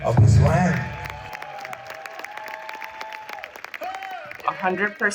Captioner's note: attendees applauding